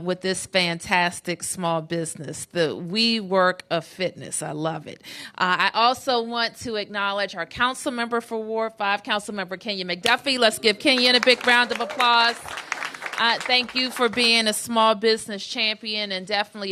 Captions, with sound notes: WITH THIS FANTASTIC SMALL BUSINESS. THE WE WORK OF FITNESS, I LOVE IT. I ALSO WANT TO ACKNOWLEDGE OUR COUNCILMEMBER FOR WARD 5, COUNCILMEMBER KENYAN McDUFFIE. LET'S GIVE KENYAN A BIG ROUND OF APPLAUSE. [APPLAUSE] THANK YOU FOR BEING A SMALL BUSINESS CHAMPION AND DEFINITELY